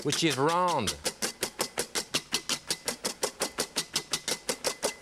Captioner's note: whisk whipping